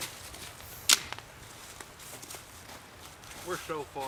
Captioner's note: boots crunching; wood snapping